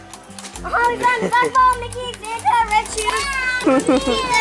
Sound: excited talking

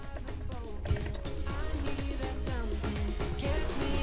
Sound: underwater bubbling

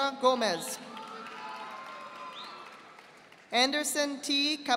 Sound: audience applauding

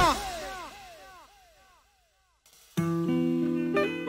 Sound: echoing

